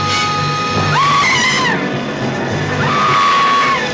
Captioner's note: screaming; buzzing